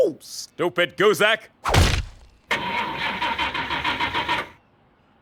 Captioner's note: cow car engine won't start